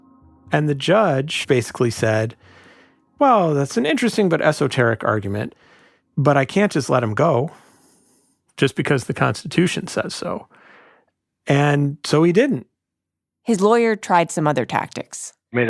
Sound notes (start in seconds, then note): none